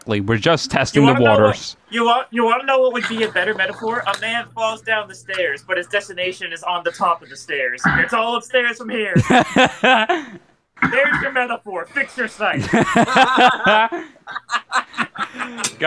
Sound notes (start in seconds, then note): 9.1 laughing; 12.5 group laughter